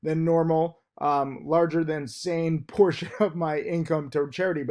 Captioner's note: laughs